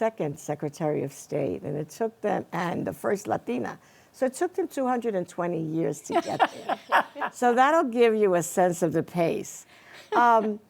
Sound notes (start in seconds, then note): 6.1 panelists chuckling